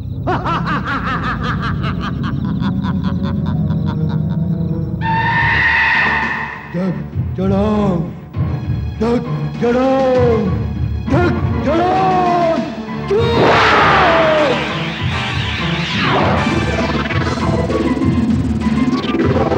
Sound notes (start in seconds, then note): 0.2 laughs; 13.0 grunts